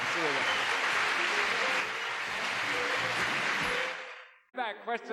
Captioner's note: audience applauds